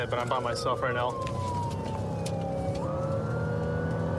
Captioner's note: siren blaring